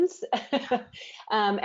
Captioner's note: laughing